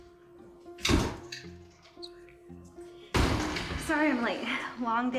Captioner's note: door thumps